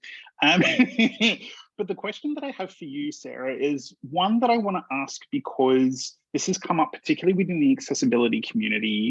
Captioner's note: laughs